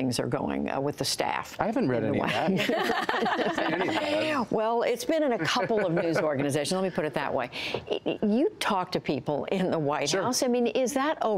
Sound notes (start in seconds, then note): 2.2 laughter